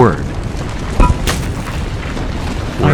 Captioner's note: debris crashing into eachother